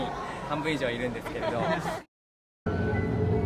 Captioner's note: laugh